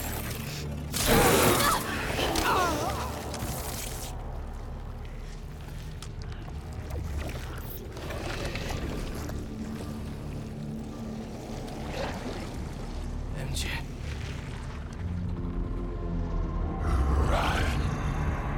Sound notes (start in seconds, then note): none